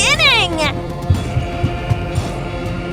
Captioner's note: running footsteps receding